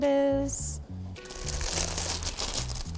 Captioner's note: wrap crinkling